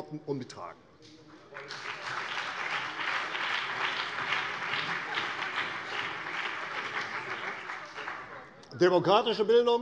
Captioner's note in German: Beifall CDU und BÜNDNIS 90/DIE GRÜNEN